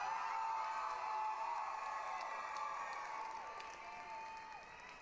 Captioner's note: applause, cheering